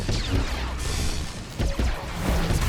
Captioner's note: gunshots